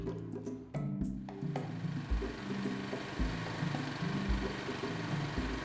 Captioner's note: concrete mixer